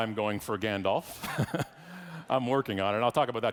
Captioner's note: laughs